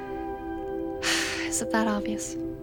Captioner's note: sighs